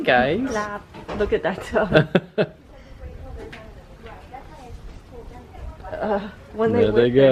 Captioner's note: laughter